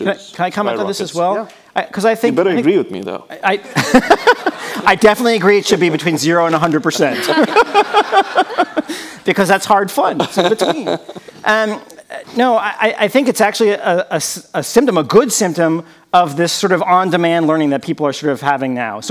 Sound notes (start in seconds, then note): 3.6 laughs; 6.9 people laughing